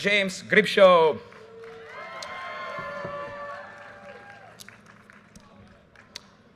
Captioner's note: audience cheers and applause